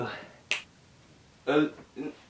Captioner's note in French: claquement de doigts avec disparition